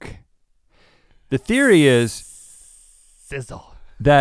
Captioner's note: Link hisses